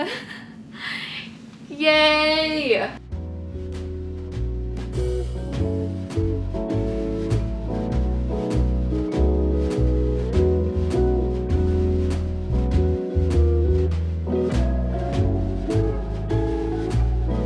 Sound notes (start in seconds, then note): 0.0 chuckles; 3.7 soft music